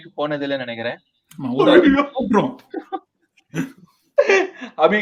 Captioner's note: laughs